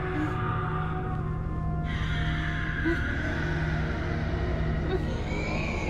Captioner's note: dragons moaning in agony